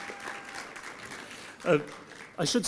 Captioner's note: applause